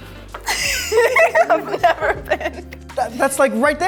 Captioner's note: laughs